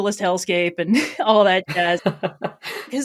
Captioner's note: laughs